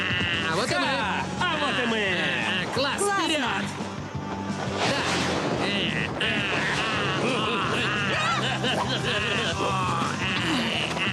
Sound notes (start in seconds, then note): 7.7 kiaiing